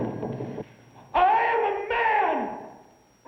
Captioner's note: yelling